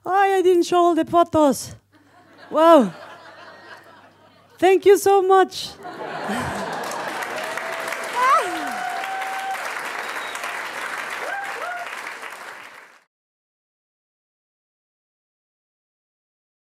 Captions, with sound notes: Oh, yeah, I didn't show all the photos! Whoa! (audience laughs) Thank you so much! (audience laughs and claps)